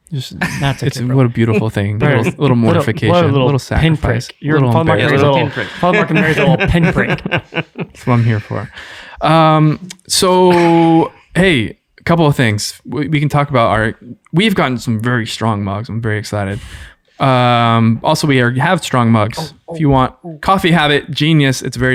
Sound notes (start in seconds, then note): 4.7 laughing